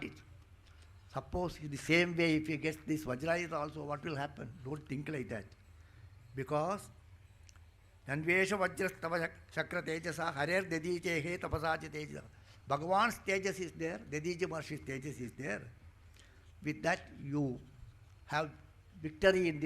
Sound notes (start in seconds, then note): 7.0 speaking in Sanskrit